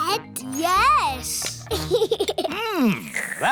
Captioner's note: giggles